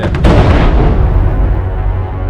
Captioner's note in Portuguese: explosão